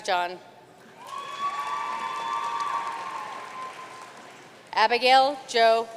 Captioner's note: audience cheering and applauding